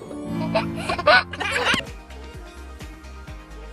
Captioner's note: baby laughing; light upbeat music